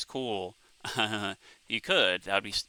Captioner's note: chuckling